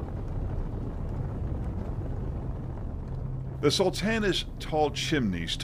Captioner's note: flames roaring